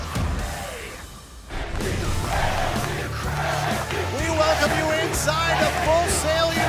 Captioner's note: fans chanting